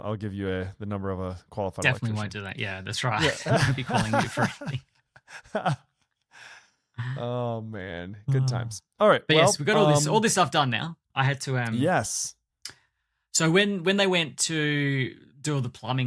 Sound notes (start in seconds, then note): 3.1 laughs; 3.2 chuckles; 6.6 laughs